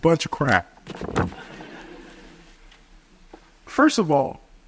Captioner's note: audience chuckles